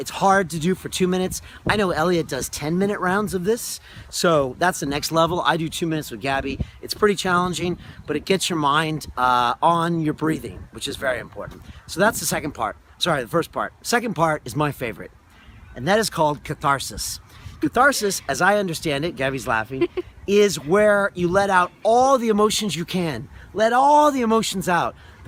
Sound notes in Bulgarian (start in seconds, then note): 19.7 се смее